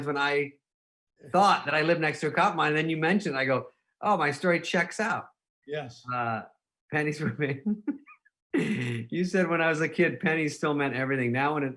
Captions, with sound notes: when I thought that I lived next to a copper mine and then you mentioned it, and I go, "Oh, my story checks out." - Yes. - Pennies for me. (laughing) You said, "When I was a kid, pennies still meant everything.